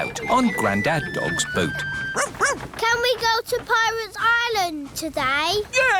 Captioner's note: barks